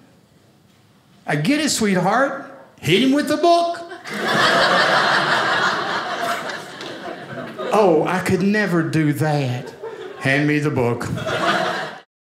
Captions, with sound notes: I get it sweetheart. Hit him with the book. (audience laughing) "Oh, I could never do that." Hand me the book.